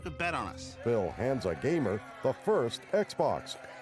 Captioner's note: cheering